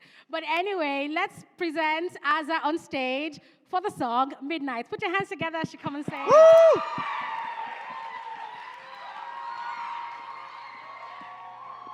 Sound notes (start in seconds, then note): 6.2 cheering